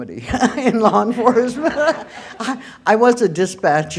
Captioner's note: laughter